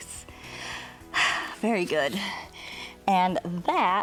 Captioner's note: exhales